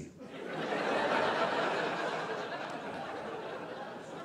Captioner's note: audience laughing